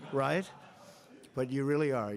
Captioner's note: laughter